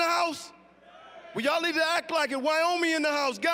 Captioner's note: audience cheering